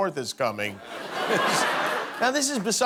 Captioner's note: laughter